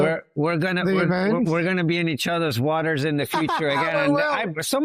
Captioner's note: laughs